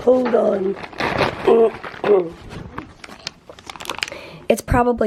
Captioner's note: plastic crinkling